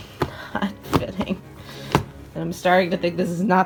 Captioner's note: slamming suitcase shut